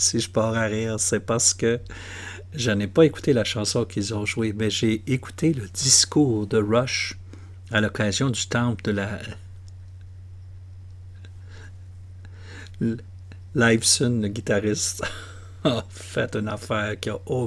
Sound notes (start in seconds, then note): 15.0 laughter